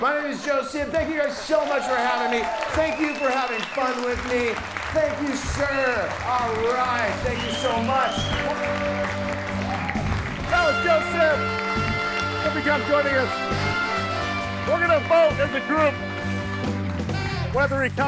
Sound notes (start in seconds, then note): 2.6 audience applauds and cheers; 7.9 upbeat music; 8.6 audience applauds and cheers; 14.1 upbeat music